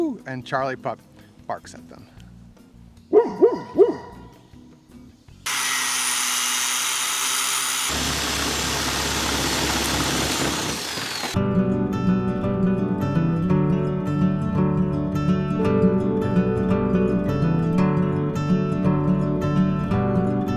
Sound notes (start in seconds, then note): 3.1 dog barking; 5.5 metal grinding; 11.4 gentle bright acoustic music